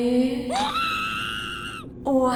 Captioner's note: Schmitt shrieks